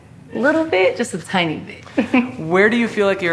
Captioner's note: laughs